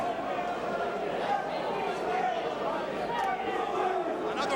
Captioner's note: crowd chattering